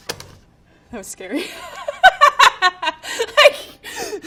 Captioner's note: laughing